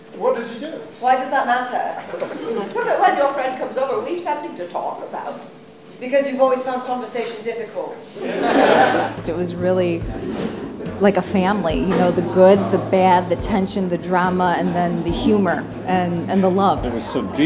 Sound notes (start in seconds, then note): 8.1 audience laughter